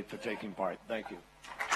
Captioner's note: applause